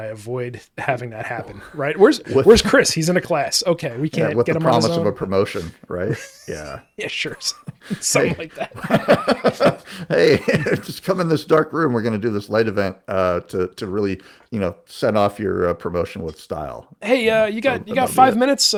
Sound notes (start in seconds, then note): 10.0 laughing